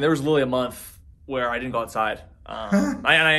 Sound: laughs

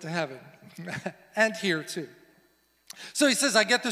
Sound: laughs

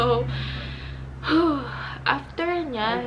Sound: sighs

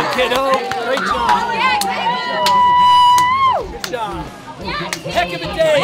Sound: cheering

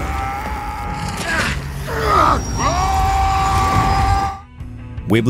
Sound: grunting and yelling

